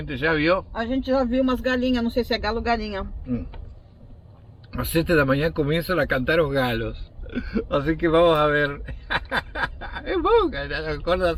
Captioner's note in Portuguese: risos